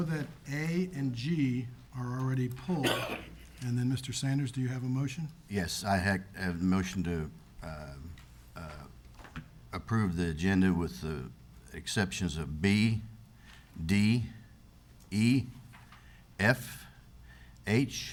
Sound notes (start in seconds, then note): 2.8 attendee coughs